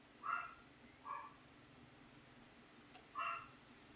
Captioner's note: dog barks